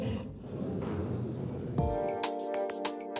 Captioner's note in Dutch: publiek mompelt; vrolijke muziek